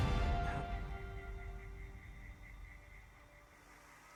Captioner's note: soft music intensifies; cicadas chirping